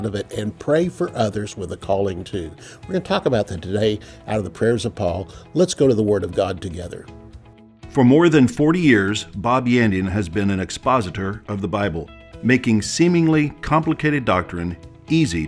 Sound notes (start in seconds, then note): 8.0 voiceover